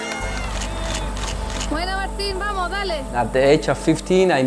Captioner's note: crowd shouting